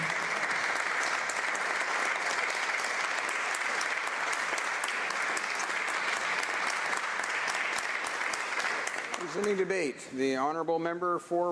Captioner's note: applause